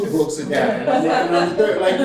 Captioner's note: laughter